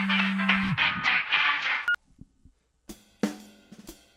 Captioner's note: cell phone rings